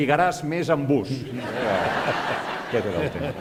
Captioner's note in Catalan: riures; riures i aplaudiments